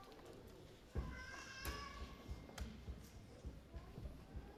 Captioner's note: baby crying